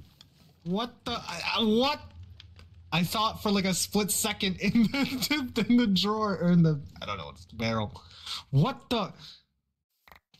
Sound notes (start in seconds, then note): 4.7 laughs